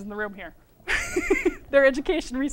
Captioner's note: laughter